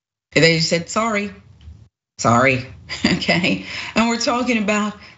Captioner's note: laugh